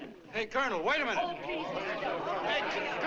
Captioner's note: crowd shouting